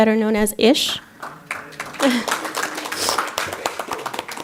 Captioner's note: applause